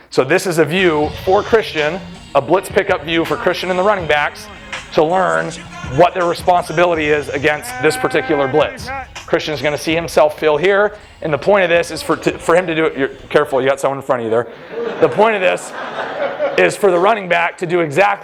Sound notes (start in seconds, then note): 14.4 laughter